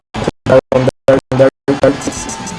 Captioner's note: laggy audio